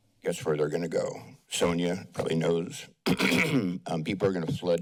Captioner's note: clears throat